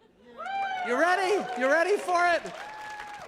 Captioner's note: all cheering